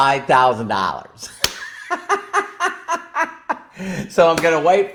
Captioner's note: laughs